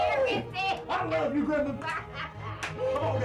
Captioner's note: granny laughing; lively music